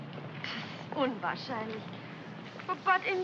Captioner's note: speaks in German